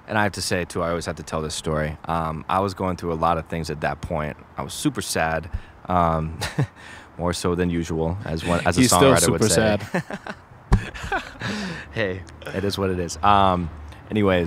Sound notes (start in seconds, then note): 8.4 laughs; 10.7 both laughs